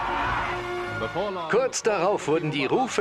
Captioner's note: voiceover